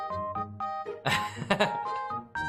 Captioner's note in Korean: 웃음